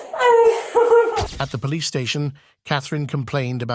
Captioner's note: crying